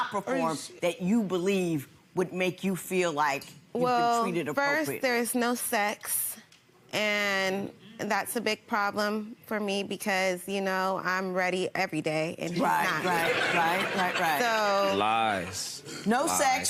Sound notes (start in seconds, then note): 12.8 audience laughing